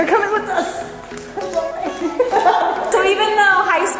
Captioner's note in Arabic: يضحك